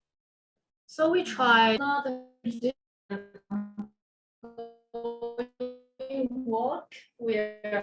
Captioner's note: audio dropping